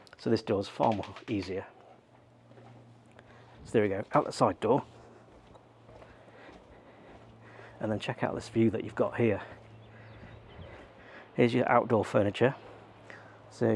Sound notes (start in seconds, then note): 9.8 birds chirping